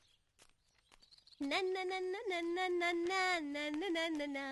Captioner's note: humming